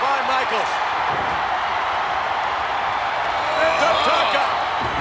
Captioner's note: audience cheers